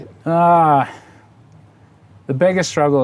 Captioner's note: sighs